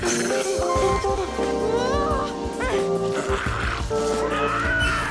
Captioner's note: grunting